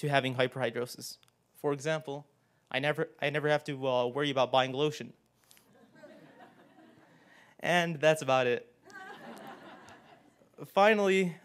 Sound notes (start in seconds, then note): 5.4 laugh